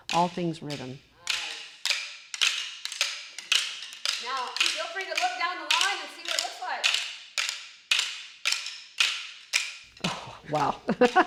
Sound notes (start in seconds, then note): 1.5 stick clacking